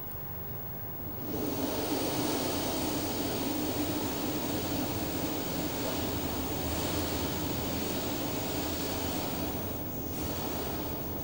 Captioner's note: blows into the microphone